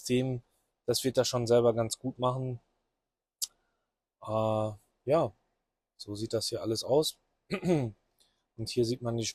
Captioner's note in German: räuspern